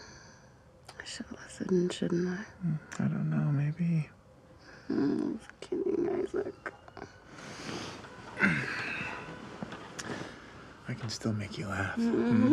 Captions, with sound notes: - (sighs) I should've listened, shouldn't I? - Hm, I don't know, maybe. - Hm, kidding, Isaac. (Isaac groans) - I can still make you laugh.